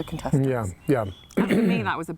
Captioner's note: clears throat